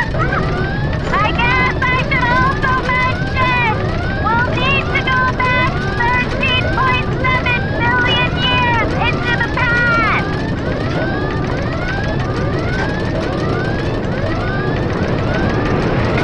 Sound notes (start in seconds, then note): 0.0 yells and screams in excitement; 1.1 yelling; 10.9 alarms and shaking continue